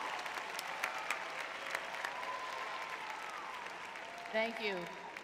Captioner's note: audience cheering; audience applauding